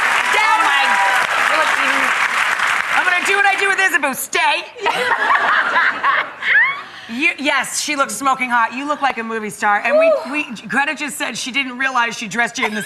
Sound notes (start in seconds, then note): 0.0 audience clapping; 4.8 laughing